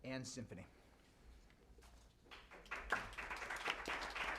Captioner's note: applause